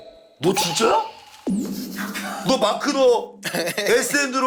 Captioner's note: laughing at his awkward acting